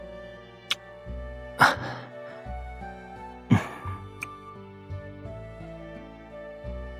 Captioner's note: kiss